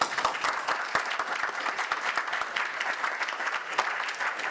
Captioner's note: audience applause